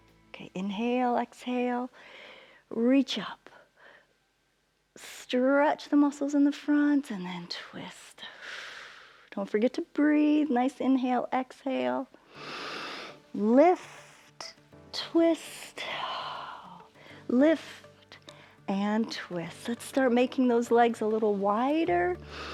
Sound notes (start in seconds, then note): 8.3 exhales; 12.2 inhales